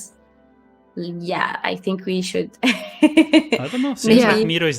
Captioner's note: laughs